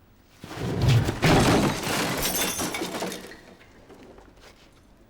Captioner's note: plates crashing